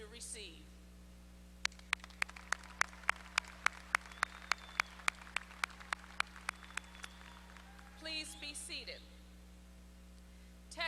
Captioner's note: applause